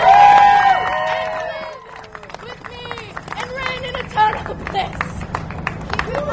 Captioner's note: audience cheers and applause; applause